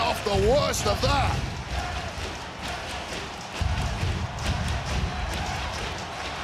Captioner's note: crowd chants NXT